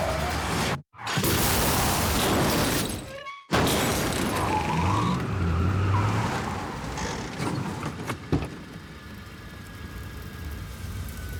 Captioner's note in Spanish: Estruendo; Ruido del motor de un auto